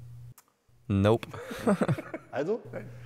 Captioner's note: laughs